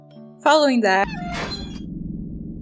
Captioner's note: door slams